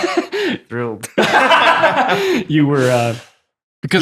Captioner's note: all laughing